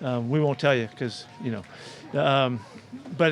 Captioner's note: reporter laughs